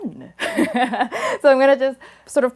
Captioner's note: laughs